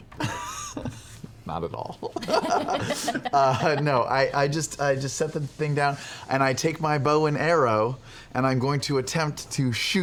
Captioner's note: laughs